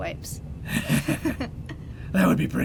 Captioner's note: Batman & Robin laughing